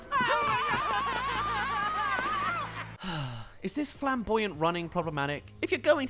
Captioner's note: sigh